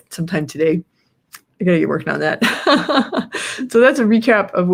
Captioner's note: laughs